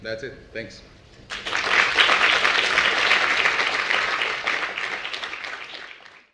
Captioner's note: applause